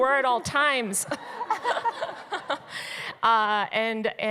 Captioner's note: laughter